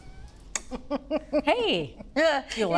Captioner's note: laughs